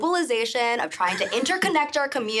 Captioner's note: chuckling